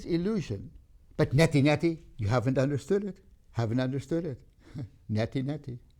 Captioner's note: laughs